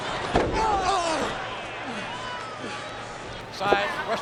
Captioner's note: Spike groans